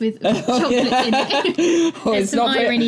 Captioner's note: laughing